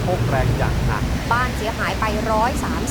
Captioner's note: TV announcer talking about the monsoon